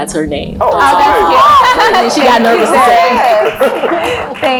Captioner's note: laugh